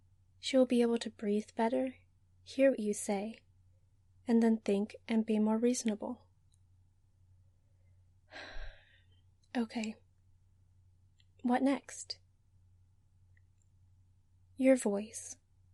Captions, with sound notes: She'll be able to breathe better, hear what you say, and then think and be more reasonable. (sighs) Okay, what next? Your voice.